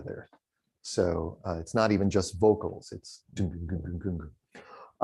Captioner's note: imitates drumming